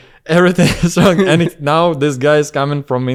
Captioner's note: laughs